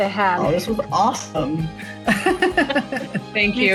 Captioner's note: laughs